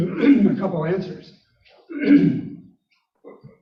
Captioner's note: clearing throat